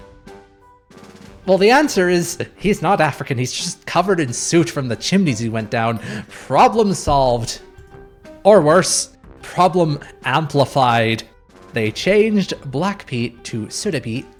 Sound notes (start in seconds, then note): 6.0 bemused laugh